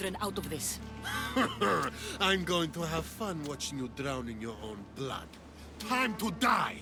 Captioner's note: laughs